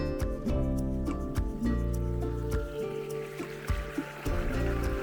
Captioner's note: upbeat music continues; water gurgling